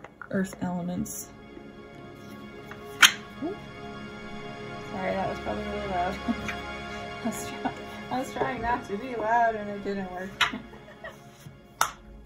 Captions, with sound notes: earth elements. Ooh! Sorry, that was probably really loud (laugh), I was trying not to be loud and it didn't work (laugh)!